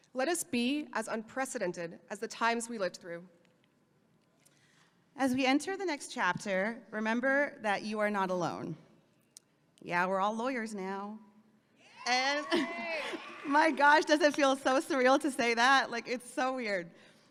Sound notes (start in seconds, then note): 11.9 audience cheering